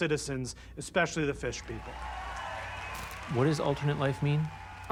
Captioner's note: audience cheering, applauding